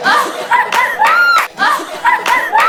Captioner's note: laughing out loud